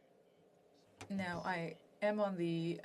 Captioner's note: speaking French